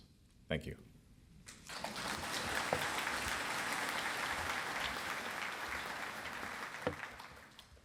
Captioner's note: applause